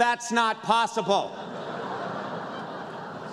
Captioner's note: laughter